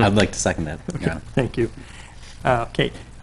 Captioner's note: chuckling